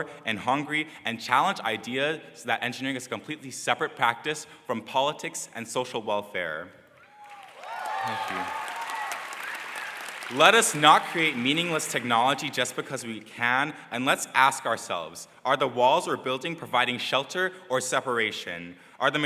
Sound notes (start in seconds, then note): 7.1 crowd applause